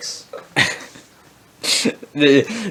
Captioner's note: laughs